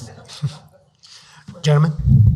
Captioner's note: audience laughs